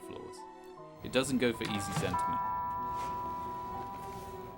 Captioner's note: doorbell rings